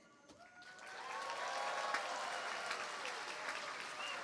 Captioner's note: cheering, applause